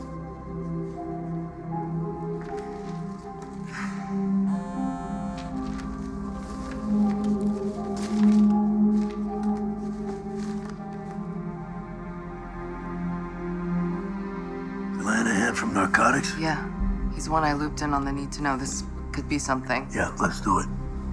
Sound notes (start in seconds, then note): 3.6 breathes deeply; 4.4 cellphone vibrating